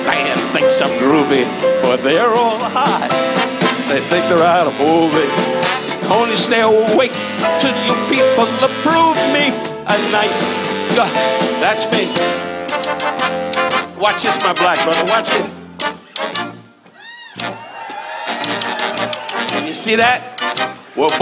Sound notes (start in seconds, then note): 16.9 audience cheers; 17.2 playful music